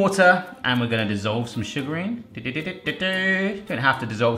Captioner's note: humming